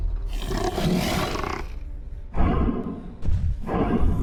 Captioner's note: Dweller snarls